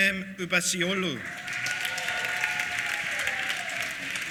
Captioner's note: applause